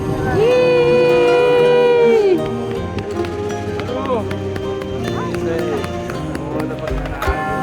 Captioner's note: cheering and celebrating in portuguese